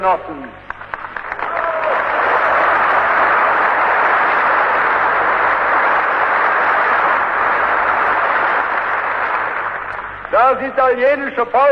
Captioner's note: applause